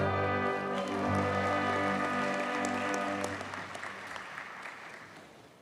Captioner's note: audience cheers and applauds